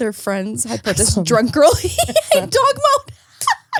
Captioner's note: laughs